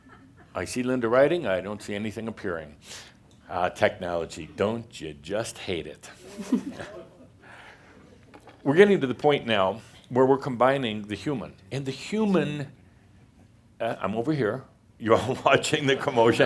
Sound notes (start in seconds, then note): 6.2 a few chuckles